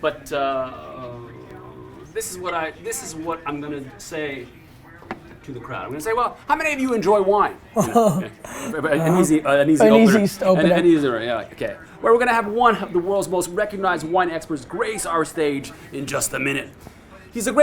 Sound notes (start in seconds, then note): 7.7 laughs